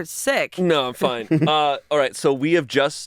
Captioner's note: chuckles